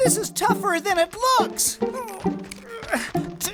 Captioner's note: grunts of effort